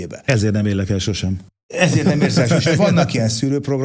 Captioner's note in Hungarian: nevetés